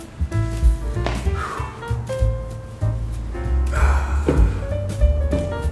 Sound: sighs

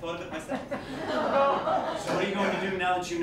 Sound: laughter

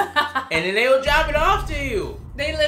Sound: laughing

